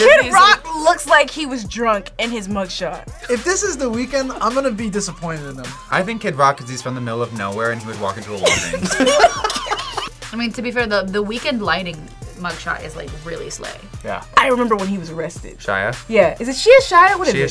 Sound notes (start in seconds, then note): 8.4 group laughs